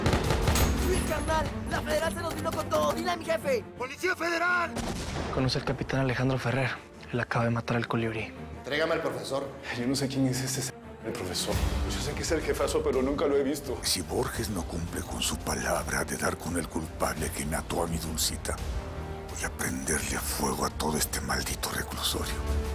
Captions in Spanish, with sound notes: [Disparos] - LUIS, CARNAL, LA FEDERAL SE NOS VINO CON TODO, DILE A MI JEFE. - !POLICIA FEDERAL! [Explosión] - ¿CONOCE AL CAPITAN ALEJANDRO FERRER? EL ACABA DE MATAR AL COLIBRI. - ENTREGAME AL PROFESOR. - YO NO SE QUIEN ES ESE ------ DEL PROFESOR. YO SE QUE ESE ES EL JEFAZO, PERO NUNCA LO HE VISTO. - SI BORGES NO CUMPLE CON SU PALABRA DE DAR CON EL CULPABLE QUE MATO A MI DULCITA, VOY A PRENDERLE FUEGO A TODO ESTE MALDITO RECLUSORIO.